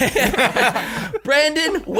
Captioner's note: laughing